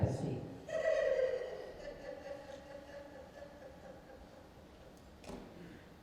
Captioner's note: laughing